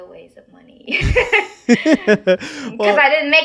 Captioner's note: person laughing